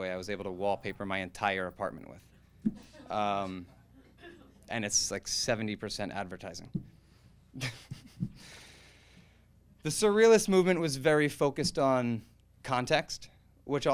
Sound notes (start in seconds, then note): 7.6 laughs